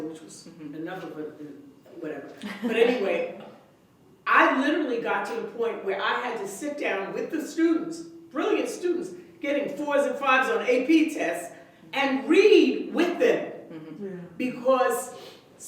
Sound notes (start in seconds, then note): 2.4 laughter